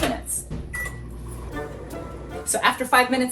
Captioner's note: microwave beeps